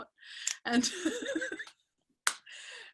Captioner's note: laughing